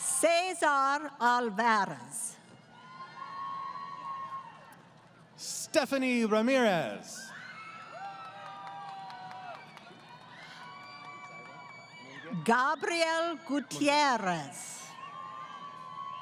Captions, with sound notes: >> Cesar Alvarez. >> Stephanie Ramirez. [ Crowd Cheering ] >> Gabriel Gutierrez.